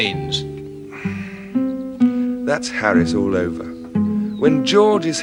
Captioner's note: sighing